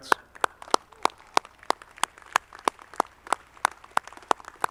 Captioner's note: audience clapping